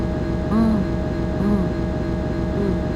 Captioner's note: nom